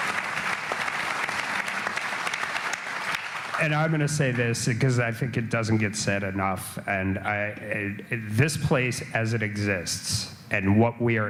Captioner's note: applause